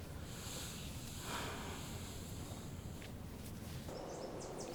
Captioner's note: sighing